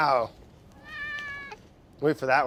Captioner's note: cat meows